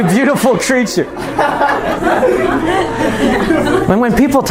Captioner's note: laughter